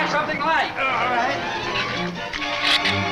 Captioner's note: groans; shrews chatter